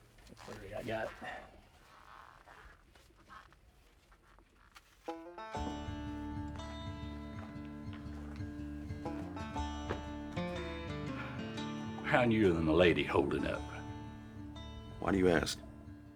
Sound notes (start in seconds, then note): 5.2 dramatic music; 10.8 sighs